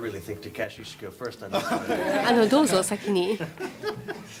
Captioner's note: laughter